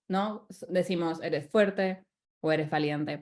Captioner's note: speaking spanish